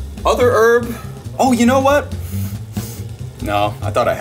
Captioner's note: sniffs